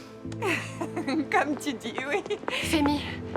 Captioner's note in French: rire